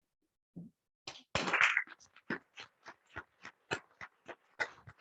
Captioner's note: attendees clapping